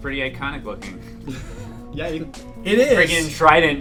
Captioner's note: laughs